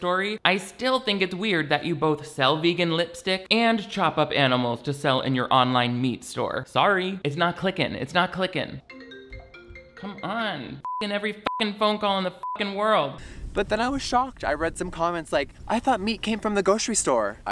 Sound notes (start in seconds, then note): 8.9 phone rings; 10.8 beep